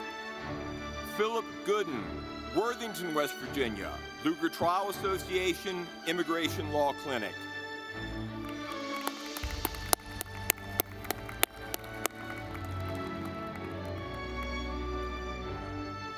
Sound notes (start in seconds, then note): 8.1 audience clapping; 8.2 dramatic music